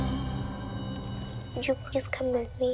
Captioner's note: school bell rings